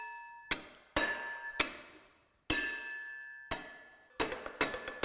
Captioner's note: metal clanging